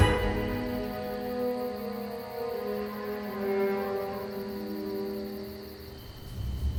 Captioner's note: soft music; insects thrumming